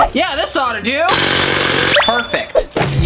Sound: loud drilling

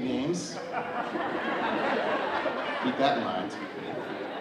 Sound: audience laughing

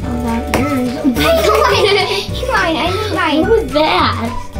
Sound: giggles; mumbles; giggles; mumbles

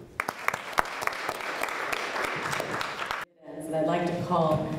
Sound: applause

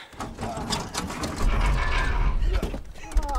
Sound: car shifts/metal stress; grunts and groans

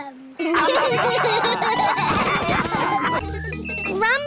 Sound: all laughing; children giggling

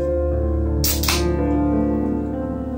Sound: opens can

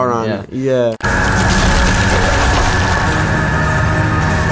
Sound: laser noises

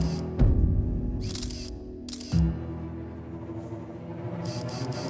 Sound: cameras snap

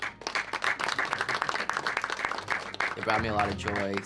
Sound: audience clapping

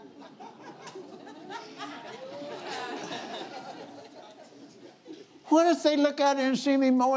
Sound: laughs

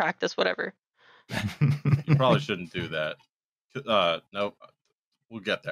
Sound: laughter

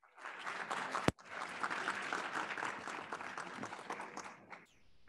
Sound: audience applauding

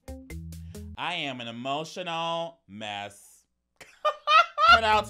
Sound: upbeat music; laughing

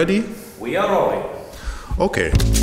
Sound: voice-over

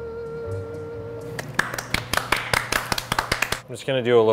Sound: clapping sounds

